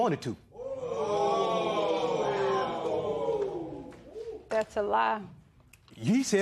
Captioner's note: spectators murmur